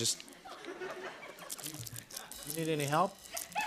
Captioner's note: laughter